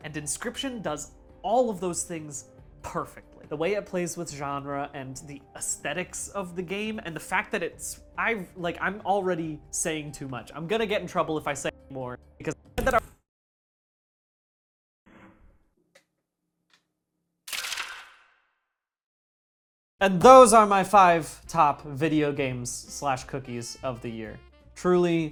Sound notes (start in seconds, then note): 13.8 glitch; 17.5 camera shutter